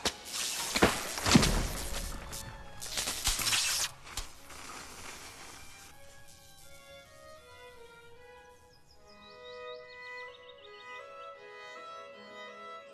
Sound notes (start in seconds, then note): 0.3 electric zapping, pole thudding; 10.0 birds twittering